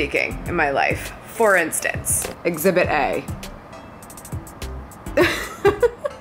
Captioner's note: laughs